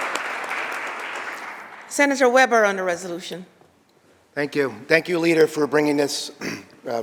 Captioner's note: applause